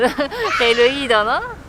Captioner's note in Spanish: Gritos de niño en el fondo